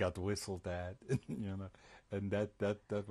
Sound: laughs

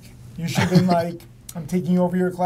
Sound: laughs

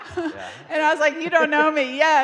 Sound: audience laughing

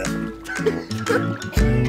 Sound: elevator music; laughter

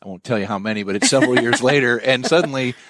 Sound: laughing

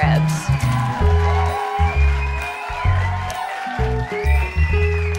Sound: audience cheering

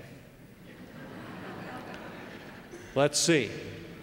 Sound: laugh

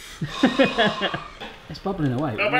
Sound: laughs

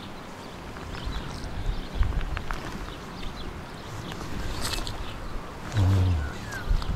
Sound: water splashing

